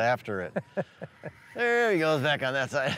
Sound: laughs

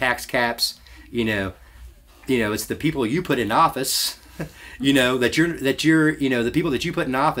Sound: laughs to self

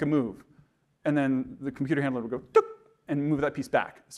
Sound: imitating beep

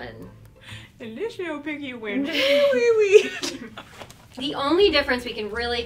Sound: laughs

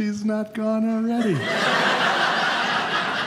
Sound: audience laughing

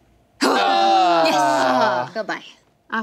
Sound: groans

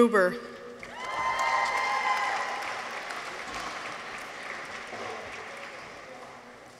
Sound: people cheer; audience applauds

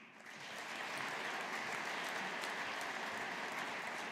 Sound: audience applauding

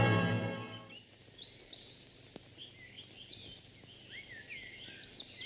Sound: birds tweet

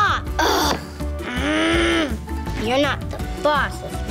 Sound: boy growls

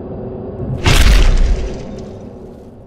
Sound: scary whoosh; haunting music

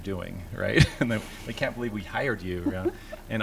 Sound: laughter

